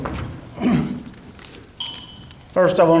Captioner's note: clears throat